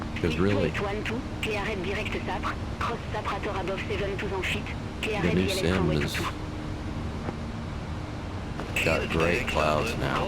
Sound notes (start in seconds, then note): 0.0 radio chatter